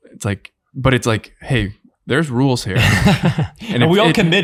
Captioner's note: all laughing